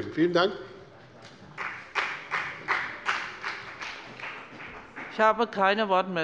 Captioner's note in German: Beifall bei der CDU und dem BÜNDNIS 90/DIE GRÜNEN